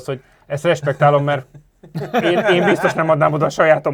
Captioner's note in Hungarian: nevetés